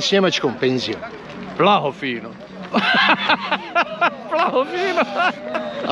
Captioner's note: laughs